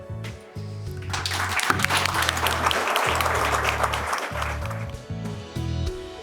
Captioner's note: audience clapping